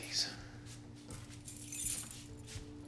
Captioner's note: keys jingle